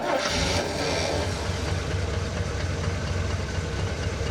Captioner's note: car engine starts